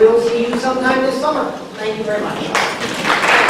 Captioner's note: applause